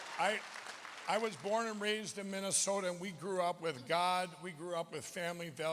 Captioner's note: applause